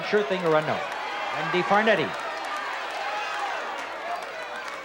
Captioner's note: audience shouting